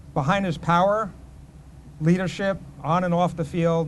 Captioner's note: none